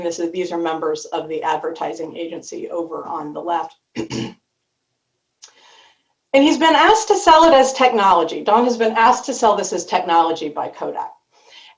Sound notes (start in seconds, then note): 4.0 clears throat